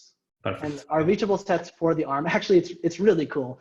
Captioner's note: laughing